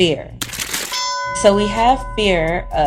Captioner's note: bell dings